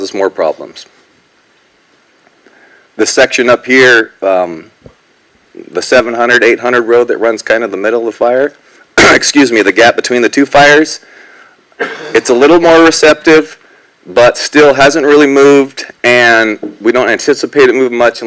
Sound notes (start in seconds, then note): 8.7 cough